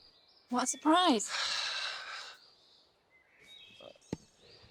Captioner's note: sighing